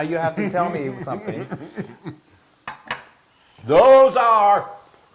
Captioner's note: laugh